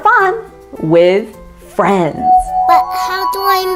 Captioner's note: ringing